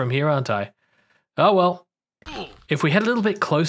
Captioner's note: pain sounds